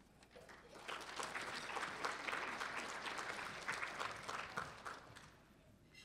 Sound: applause

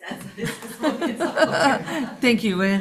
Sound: laughing

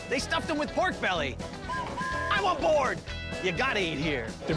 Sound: whistle blowing

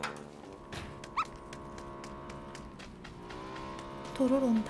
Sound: the distant sound of motorcycles!

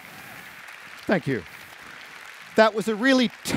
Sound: applause

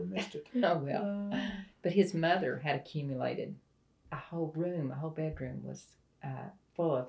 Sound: laughter

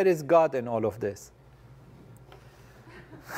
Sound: laugh

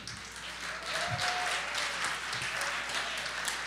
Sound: applause

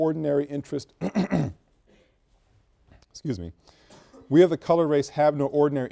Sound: coughs

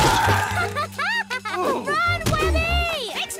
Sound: laughing

